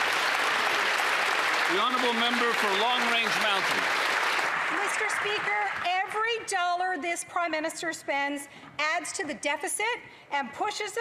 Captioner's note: applause